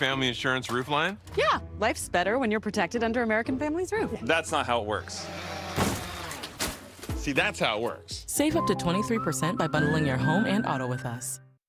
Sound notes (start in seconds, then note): 5.4 drone buzzing and crashes